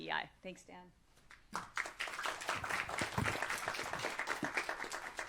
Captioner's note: applause